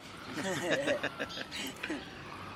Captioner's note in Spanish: Risas